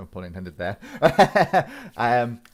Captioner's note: laughs